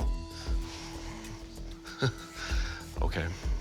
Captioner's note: chuckling